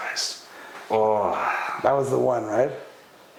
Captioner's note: exhales loudly